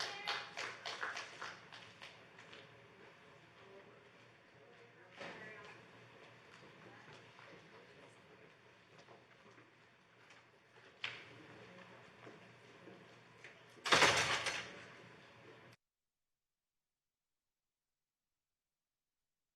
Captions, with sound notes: [APPLAUSE] Eastern Standard Time.